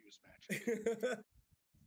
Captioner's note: laughs